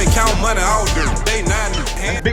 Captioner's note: beep